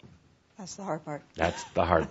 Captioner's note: she chuckles